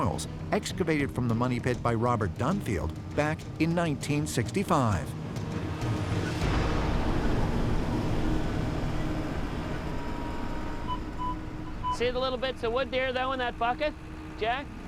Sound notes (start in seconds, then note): 9.9 beeping